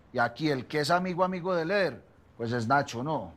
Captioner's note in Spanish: none